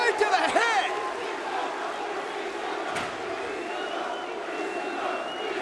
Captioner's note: spectators chanting "ECW!"